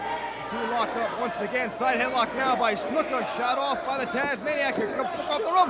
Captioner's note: crowd cheering